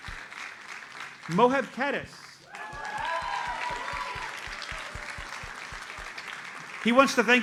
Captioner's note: audience applauds; audience cheers and applauds